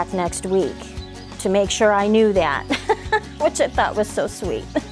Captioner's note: laughs